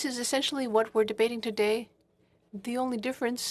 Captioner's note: speaking French